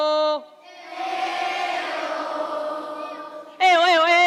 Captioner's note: echo